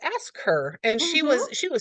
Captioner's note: laughs